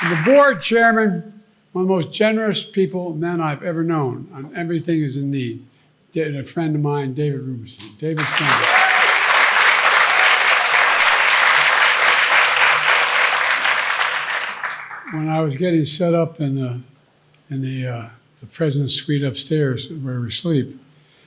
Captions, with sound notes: The board chairman, one of most generous people, that I've ever known when everything is in need, a friend of mine, David Rubenstein. David, stand up. [audience clapping] When I was getting set up in the the president suite upstairs where we sleep,